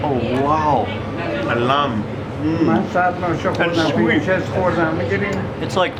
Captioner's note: speaks in foreign language